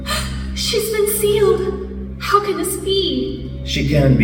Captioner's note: gasp